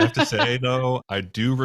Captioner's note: laughs